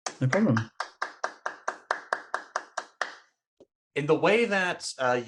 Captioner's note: applause